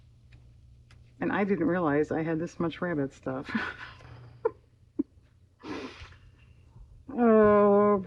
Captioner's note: laughs